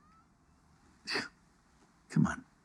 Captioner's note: scoffs